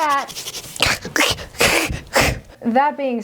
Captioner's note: hisses and retreats